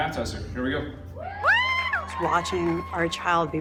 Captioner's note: cheering